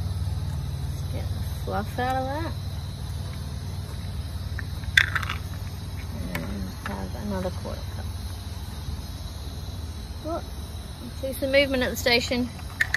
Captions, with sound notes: Just get the fluff out of that. [cashews rattle into cup] And have another quarter cup. Ooh! Can see some movement at the station!